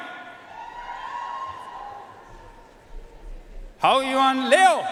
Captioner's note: audience cheering and applauding